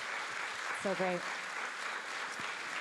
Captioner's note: audience clapping